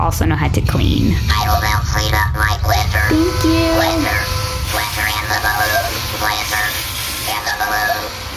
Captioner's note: vacuuming